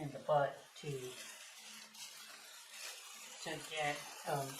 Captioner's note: sound of bubble wrap crackling